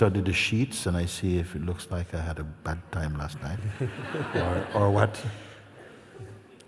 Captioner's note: laughter